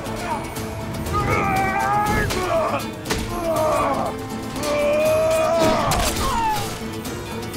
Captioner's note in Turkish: Dövüşme sesleri; Müzik - Gerilim